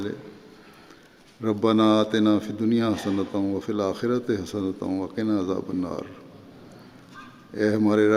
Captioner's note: Arabic